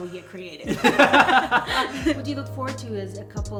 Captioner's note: laughing